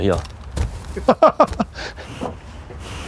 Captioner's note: laughter